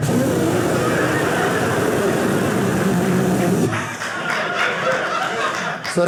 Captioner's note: audience laughing